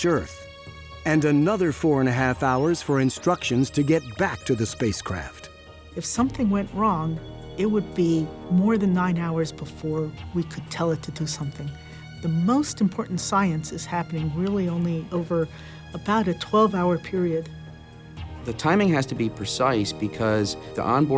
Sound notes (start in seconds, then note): none